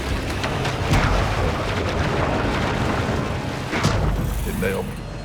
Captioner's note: thumping and splashing